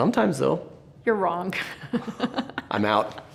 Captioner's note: laughing